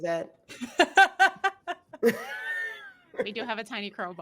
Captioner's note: laughing